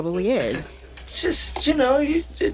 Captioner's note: soundbite of film, "goodfellas"